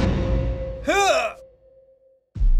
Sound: groans; silence

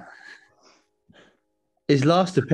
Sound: chuckling

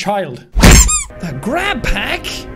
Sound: squeaky toy

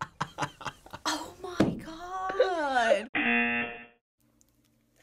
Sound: buzzer

